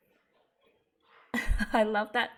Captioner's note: laughs